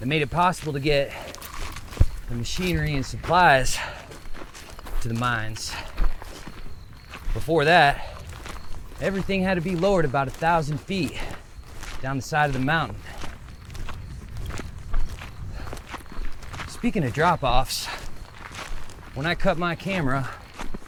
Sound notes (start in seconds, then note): 6.0 footsteps crunching; 6.0 insects chittering; 13.3 footsteps crunching; 13.3 insects chittering